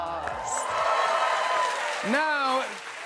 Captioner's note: cheers and applause